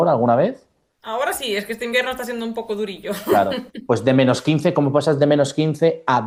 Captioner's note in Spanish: risas